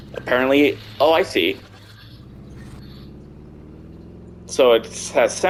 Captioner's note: wind sound in game